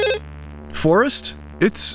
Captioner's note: ringing